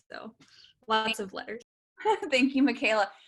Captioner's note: laughter